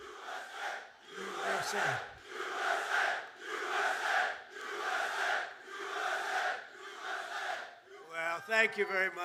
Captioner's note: audience chanting "USA"